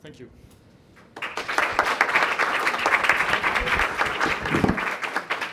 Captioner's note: audience applause